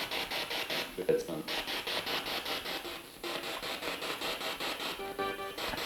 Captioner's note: noise of the spiritbox in the background